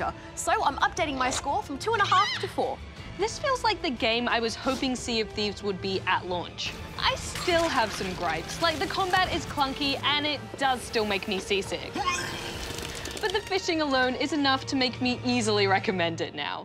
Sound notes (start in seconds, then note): 12.0 man vomits